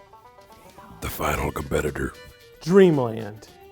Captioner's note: deep Voice